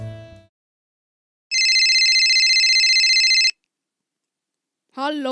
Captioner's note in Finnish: puhelin soi